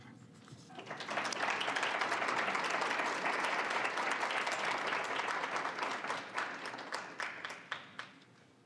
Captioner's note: applause